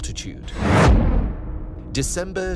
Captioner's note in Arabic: صوت دراماتيكي